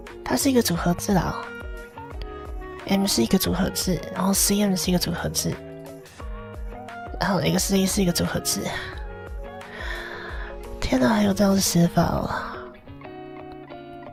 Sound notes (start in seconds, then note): 9.5 inhales